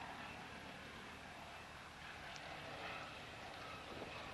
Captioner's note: sound - Light Aircraft flying overhead